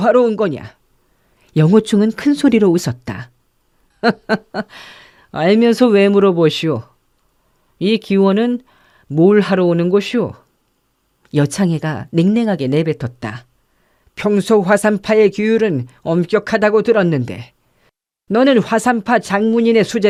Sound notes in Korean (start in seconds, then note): 4.0 웃음